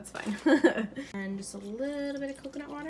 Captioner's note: laughs